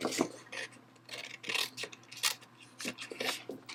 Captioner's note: cutting